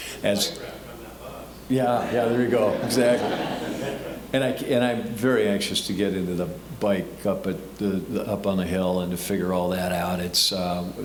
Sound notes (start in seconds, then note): 3.4 audience laughing